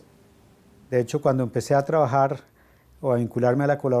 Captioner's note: Spanish